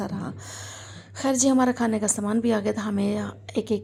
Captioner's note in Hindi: अचानक ज़ोर से सांस लेने की आवाज़